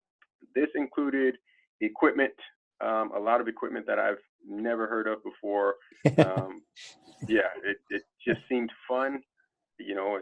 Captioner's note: laughter